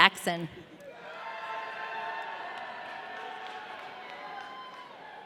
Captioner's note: audience cheering